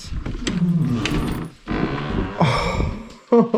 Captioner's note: door creaks open; laughing